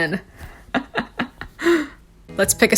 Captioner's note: chuckles